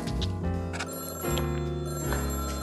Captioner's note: phone ringing